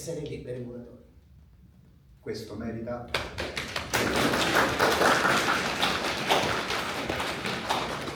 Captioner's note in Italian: applausi